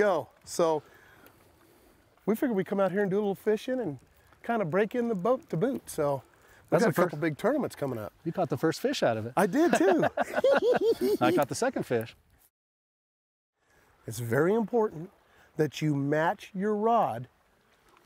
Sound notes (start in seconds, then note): 10.5 cackles